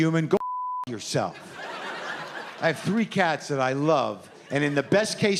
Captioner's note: laughter